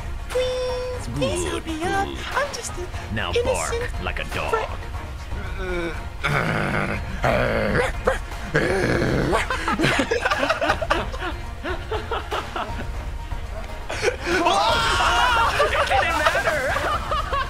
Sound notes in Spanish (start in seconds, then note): 6.2 Rugidos; 7.7 Ladridos Heroícos